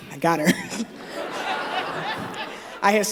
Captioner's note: laughter